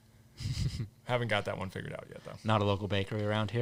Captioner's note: laughing